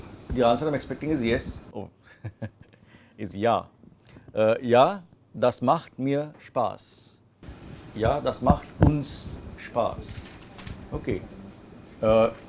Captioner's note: laughs